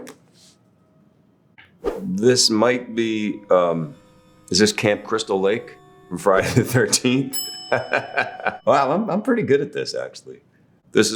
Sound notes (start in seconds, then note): 7.4 bell dinging; 7.6 laughing